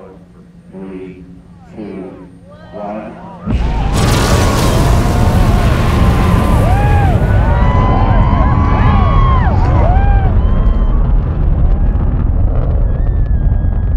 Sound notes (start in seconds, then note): 3.2 spectators cheering; 3.5 engines firing